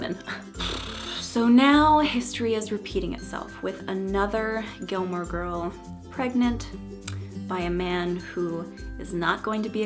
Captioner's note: blows raspberry